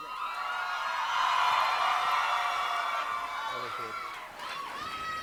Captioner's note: audience cheering